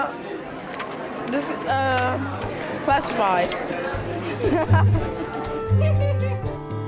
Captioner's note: laughing; soft music